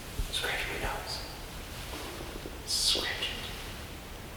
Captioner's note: whispers